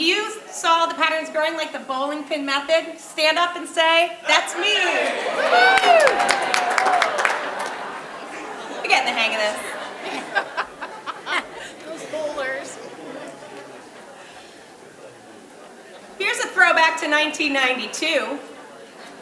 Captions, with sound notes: If you saw the patterns growing like the bowling pin method, stand up and say, "that's me." Woo hoo. [audience clapping] You get the hang of this. [woman laughing] Those bowlers. Here's a throwback to 1992.